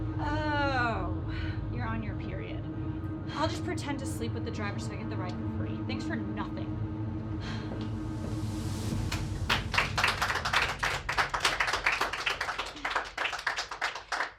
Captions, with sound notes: - Oh, you're on your period. I'll just pretend to sleep with the driver so I get the ride for free, thanks for nothing (all applaud)